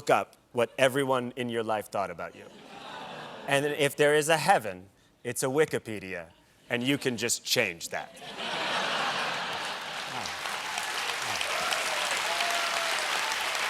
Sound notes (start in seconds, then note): 7.0 applause; 8.1 laughter